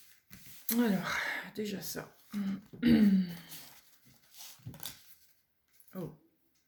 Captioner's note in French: raclement de gorge